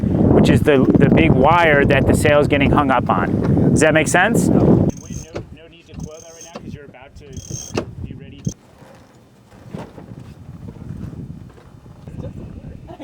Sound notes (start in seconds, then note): 6.0 clinking; 8.3 boat creaking on waves